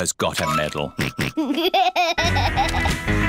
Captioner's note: snorts and laughs